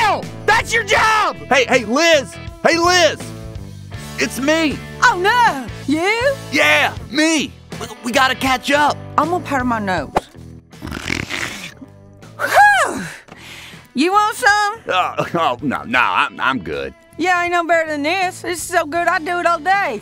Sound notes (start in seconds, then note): 10.8 snorting intesifies